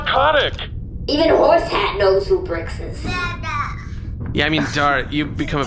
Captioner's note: gurgling approval